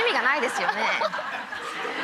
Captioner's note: crowd and laughs; laughter; speaking foreign language